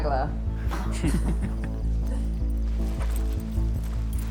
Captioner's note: all chuckling